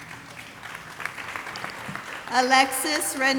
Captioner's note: audience applauding